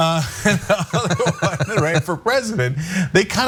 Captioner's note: laugh